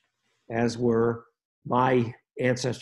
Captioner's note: none